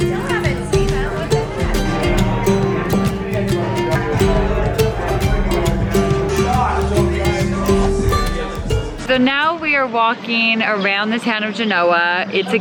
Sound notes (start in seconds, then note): 2.4 background chattering; 5.3 upbeat strumming